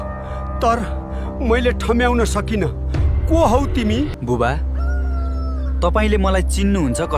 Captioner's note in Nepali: चिच्याएको आवाज